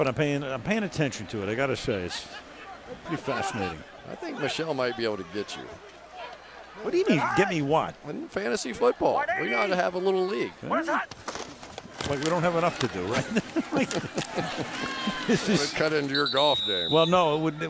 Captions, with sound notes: You know, I'm not. But I'm paying attention to it. I got to say, it's pretty fascinating. I think Michele might be able to get you. What do you mean give me what? Fantasy football. We ought to have a little league. Like, we don't have enough to do, right? [laughter] This is-- Well, cut into your golf game.